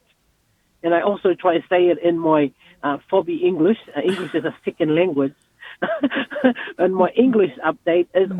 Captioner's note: they laugh